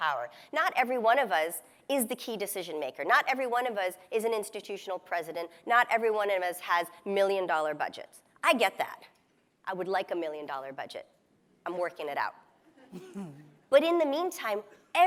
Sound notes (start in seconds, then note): 12.8 laughs